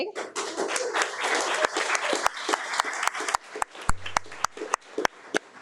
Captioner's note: audience applauding